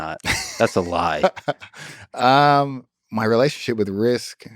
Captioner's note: Craig laughs